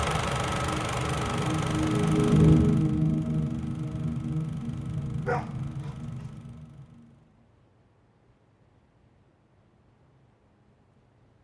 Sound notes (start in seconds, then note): 0.0 film reel whirring; 0.2 ambient music; 5.2 dog barks